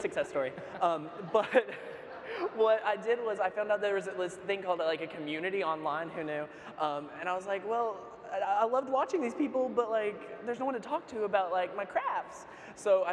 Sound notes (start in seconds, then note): 0.3 laughter; 0.3 laughs